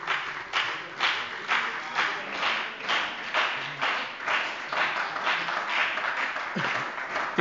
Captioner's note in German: Lebhafter Beifall bei der SPD und der FDP